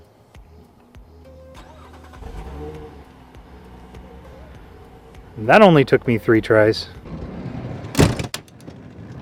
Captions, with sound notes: (Car start noise) That only took me three tries